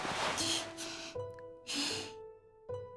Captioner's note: sniff